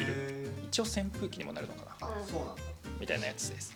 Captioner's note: laughs